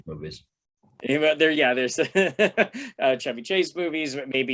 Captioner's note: laughter